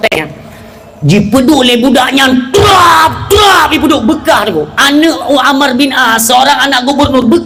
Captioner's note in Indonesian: berteriak